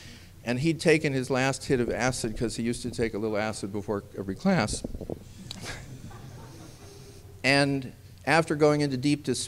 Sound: laughter

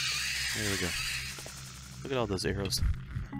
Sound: laughs

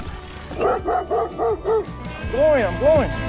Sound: dog barking

